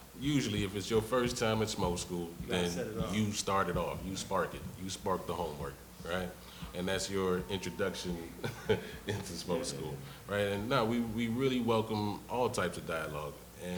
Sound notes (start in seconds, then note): 8.3 laughs